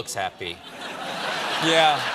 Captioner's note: laughter